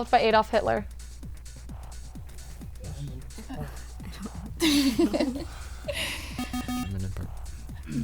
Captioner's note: wispering